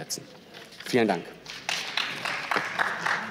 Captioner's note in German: Beifall